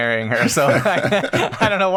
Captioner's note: laughter